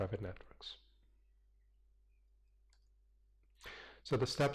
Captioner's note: pause